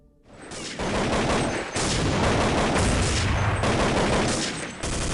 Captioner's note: gunshots blasting